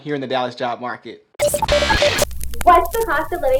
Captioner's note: beeping static sound